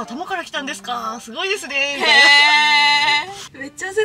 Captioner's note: laughter